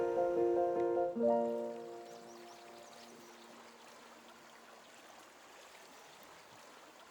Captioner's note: gentle piano music; birds chirping; water burbling